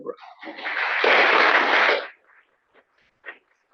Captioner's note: applause